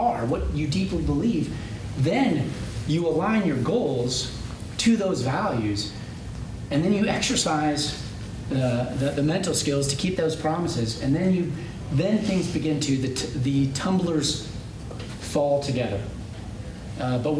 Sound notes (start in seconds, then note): none